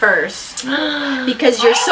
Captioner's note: gasps